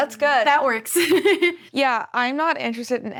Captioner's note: laughs